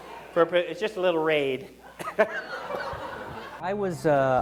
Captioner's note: coughs